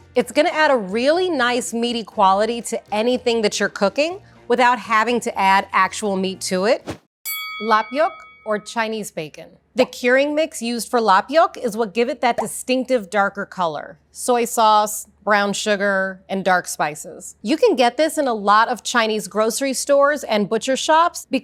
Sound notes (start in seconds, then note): 7.2 bell rings